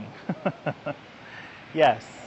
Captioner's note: laughs again